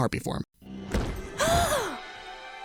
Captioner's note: gasps